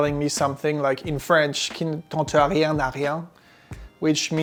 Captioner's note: speaks French